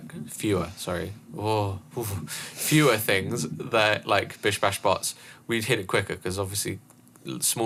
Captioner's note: shudders